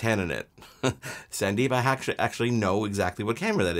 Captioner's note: chuckles